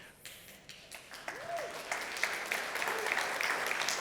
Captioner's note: applause